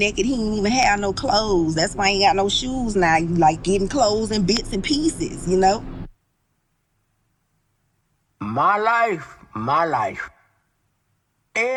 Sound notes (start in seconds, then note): 5.8 silence